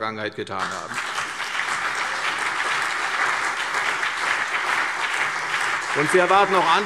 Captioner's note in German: Beifall CDU und BÜNDNIS 90/DIE GRÜNEN